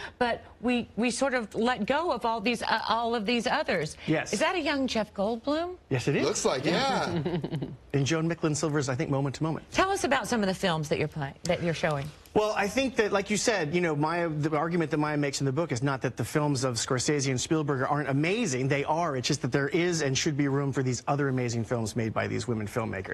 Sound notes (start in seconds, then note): 6.8 laughter